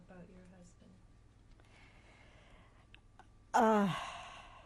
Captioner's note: sighs